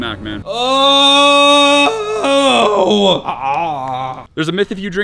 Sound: grunting

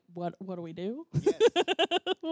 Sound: laughs

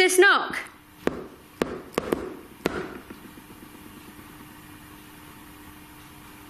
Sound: knuckles wrapping on wood

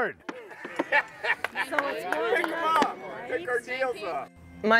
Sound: man laughs

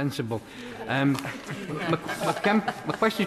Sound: members laugh

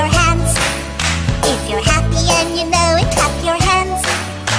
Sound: clap clap; clap clap

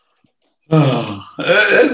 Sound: sighs

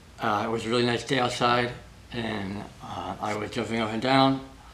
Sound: none

